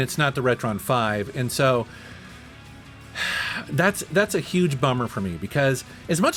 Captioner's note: sighs